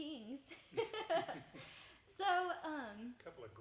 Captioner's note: chuckling